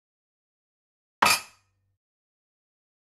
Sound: sound of glass

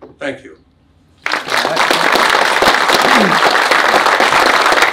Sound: audience applauds

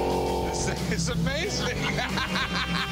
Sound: laughter

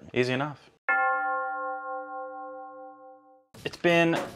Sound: bell tolls

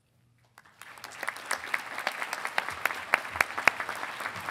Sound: audience applauding

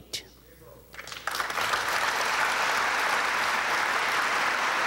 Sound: audience applauding

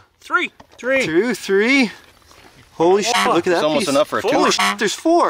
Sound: honk

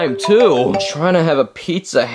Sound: phone ringing

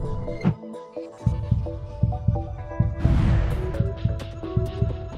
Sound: heart thumping

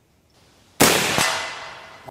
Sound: rifle fires

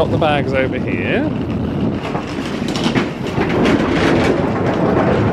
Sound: luggage wheels clattering

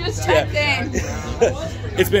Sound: laughs

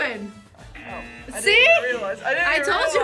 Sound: buzzer rings

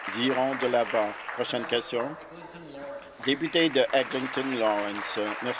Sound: applause

